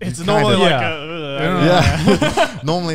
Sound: laughing

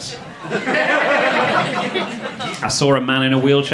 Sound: audience laughing

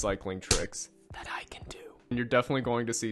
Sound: whispering

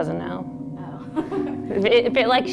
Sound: giggles

